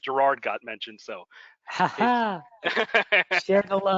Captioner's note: laughter